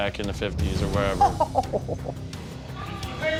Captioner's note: laughing